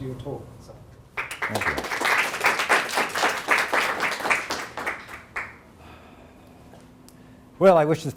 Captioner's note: audience applauding